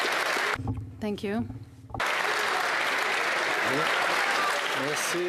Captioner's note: applause